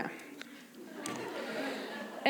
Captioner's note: laughter